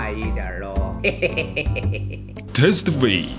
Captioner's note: laugh